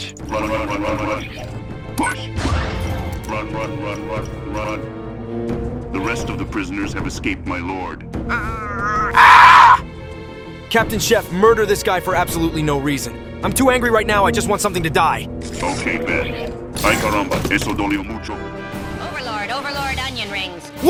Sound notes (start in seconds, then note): 8.3 the overlord growls and then unleashes a screech of pure anger